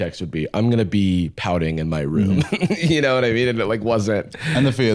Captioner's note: laughs